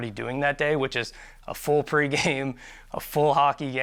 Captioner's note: chuckles